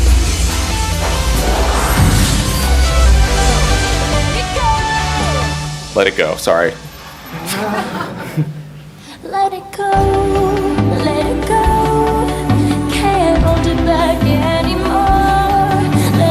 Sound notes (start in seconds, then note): 0.2 upbeat music; 7.2 audience laugh